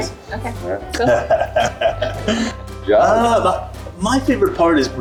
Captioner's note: laughs